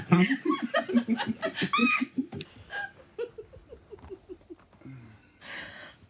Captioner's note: both laughing